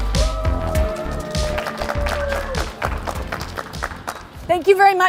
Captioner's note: cheering and clapping